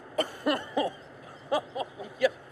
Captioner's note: laughs